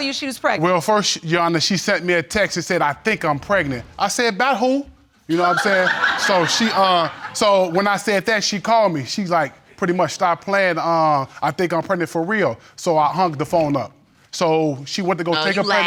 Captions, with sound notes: Well, first, Your Honor, she sent me a text to say, "I think I'm pregnant." I said, "By who?" You know what I'm sayin'. (AUDIENCE TITTERS) So she, uh... So when I said that, she called me, she's like pretty much stopped playin', "Uh, I think I'm pregnant for real." So I hung the phone up. So she went to go check up... No, you laughed.